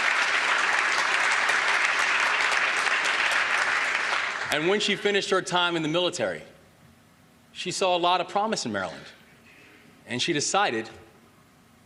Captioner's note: applause